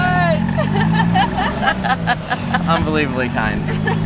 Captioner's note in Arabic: ضحك